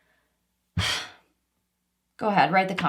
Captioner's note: deep sigh